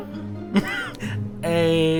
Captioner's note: laughs